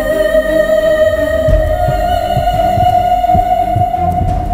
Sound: heart pounding

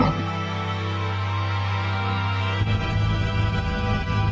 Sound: thunder crashing

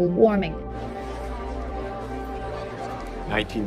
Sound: audience chatter

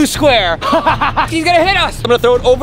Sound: laughs loudly

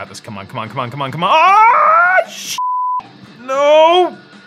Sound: beep

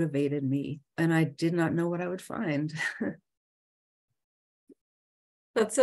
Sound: chuckles

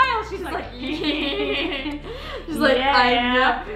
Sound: sinister laughter

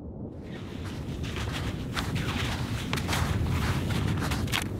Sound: snow squelching

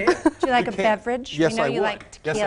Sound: laughing

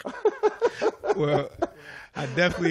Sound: laughter

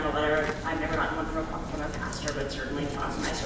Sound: speaking faintly

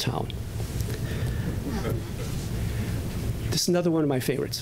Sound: laughter

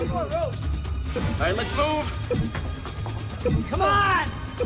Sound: blipping

